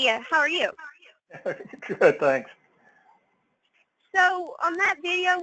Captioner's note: laugh